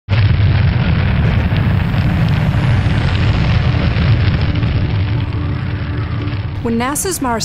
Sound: Roar of fire and wind as MSL enters Mars' atmosphere

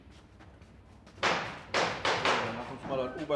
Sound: hammering in the background

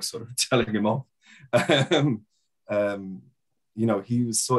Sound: laughing

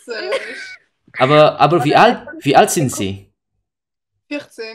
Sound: German

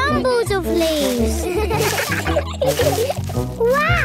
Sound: laughter

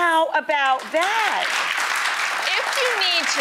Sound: audience applauding

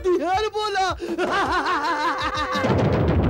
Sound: laughs

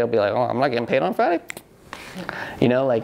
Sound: snaps fingers

